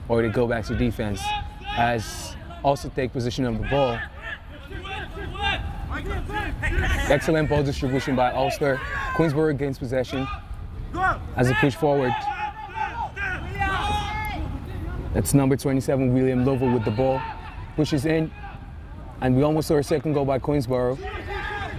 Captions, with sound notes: or to go back to defense. Also take position of the ball. (players shouting) Excellent ball distribution by Ulster. Queensborough gains possession, as it's pushed forward. (players shouting) It's number 27, William Lovo with the ball, pushes in, and we almost saw our second goal by Queensborough.